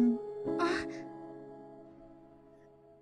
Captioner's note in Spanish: quejido